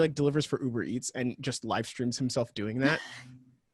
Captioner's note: laughs